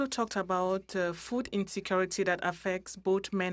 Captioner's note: speaking french